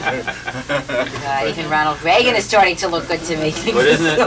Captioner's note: laughter